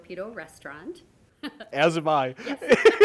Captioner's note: laughing